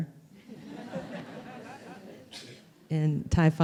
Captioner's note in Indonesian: Suara tertawa